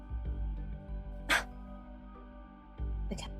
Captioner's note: ROSE scoffs